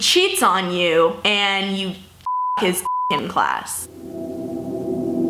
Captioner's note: beep